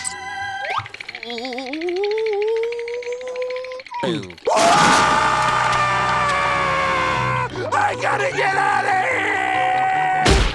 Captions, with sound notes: Oh. Boo. [screaming] I gotta get outta here!